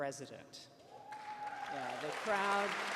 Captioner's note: cheers